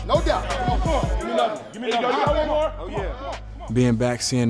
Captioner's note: men in background encourage loudly